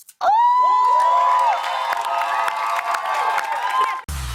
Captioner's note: cheers and applause